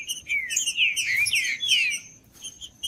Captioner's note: trinca ferro cantando